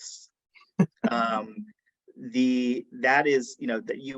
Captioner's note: chuckles